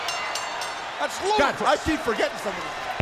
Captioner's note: bell ringing